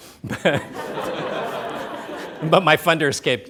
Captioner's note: laughs; laughter